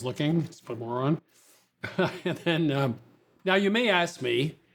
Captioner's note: laughs